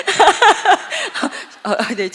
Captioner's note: laugh